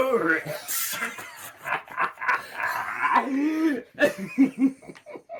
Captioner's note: both laughing maniacally